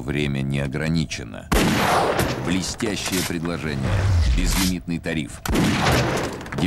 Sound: shot

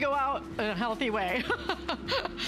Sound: laughter

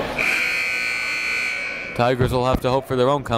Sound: buzzer dings

